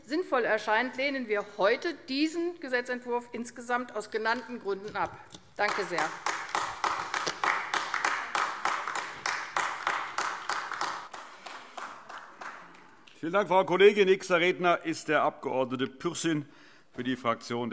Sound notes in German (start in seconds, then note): 8.3 Beifall AfD